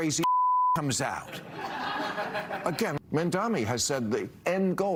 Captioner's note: laughter